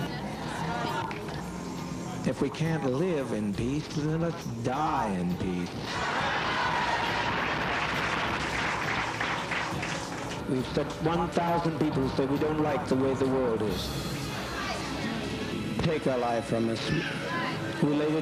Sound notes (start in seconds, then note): 5.8 cheers and applause